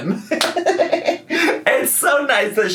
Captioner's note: laughs